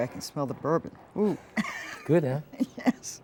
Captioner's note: laughing